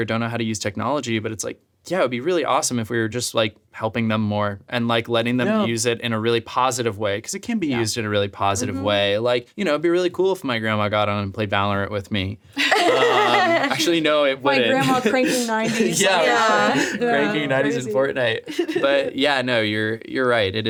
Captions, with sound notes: or don't know how to use technology but it's like, yeah, it would be really awesome if we were just like, helping them more and like, letting them use it in a really positive way, 'cause it can be used in a really positive way, like, you know, it'd be really cool if my grandma got on and played Valorant with me. (all laughing) Actually, no, it wouldn't. - My grandma cranking 90s. - Yeah, cranking 90s in Fortnite. But yeah, no, you're right.